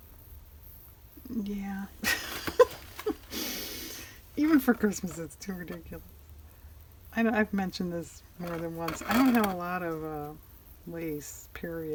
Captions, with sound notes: yeah (laughs) even for Christmas it's too ridiculous i know i've mentioned this more than once, i don't have a lot of lace period